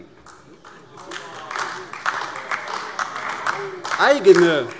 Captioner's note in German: Beifall AfD - Zuruf: Aua!